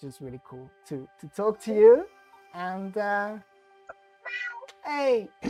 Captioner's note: meow